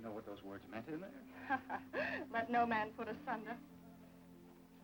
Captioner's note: laughing